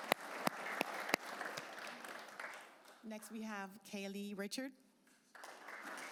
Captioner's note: applause